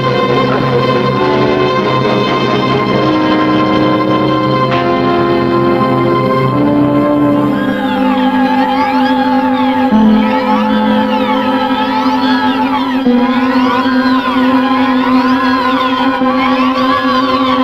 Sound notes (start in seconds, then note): 0.0 dramatic chords; 9.5 moans; 14.7 unsettling tune